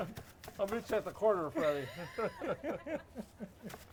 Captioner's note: group laughs